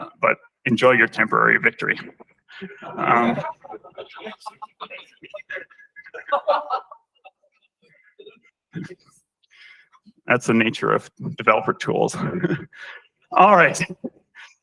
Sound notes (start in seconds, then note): 2.6 laughter